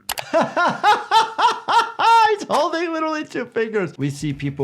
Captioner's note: laughing